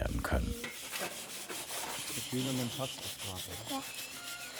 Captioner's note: grinding noises, fragments of conversation